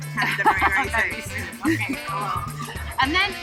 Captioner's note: laughs